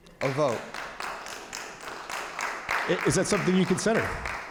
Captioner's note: audience applauding